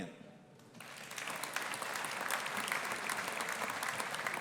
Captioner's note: audience applauding